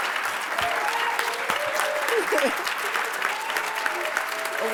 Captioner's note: applause